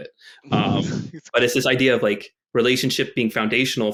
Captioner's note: chuckles